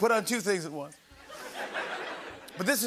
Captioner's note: laughter